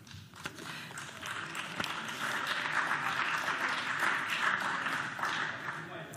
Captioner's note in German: Beifall